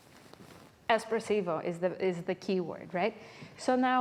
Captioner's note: speaking foreign language